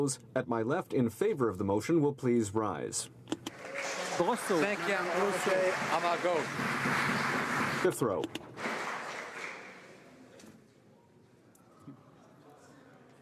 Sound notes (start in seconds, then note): 7.4 applause